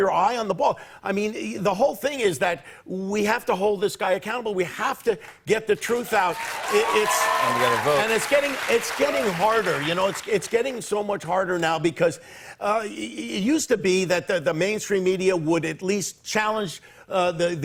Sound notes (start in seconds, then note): 5.9 cheers and applause